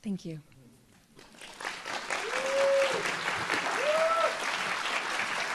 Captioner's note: audience applauds